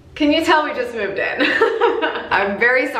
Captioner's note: laughs